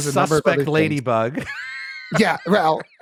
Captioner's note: laughs